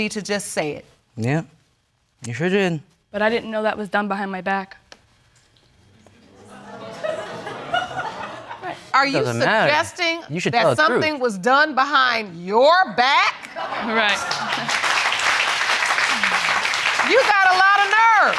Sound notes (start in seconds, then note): 6.3 audience laughing; 13.6 chuckles; 14.0 audience applauds